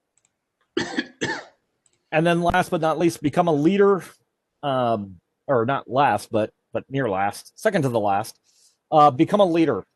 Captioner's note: coughing